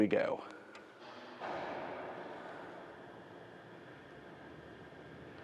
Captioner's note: telescope clatters, buzzes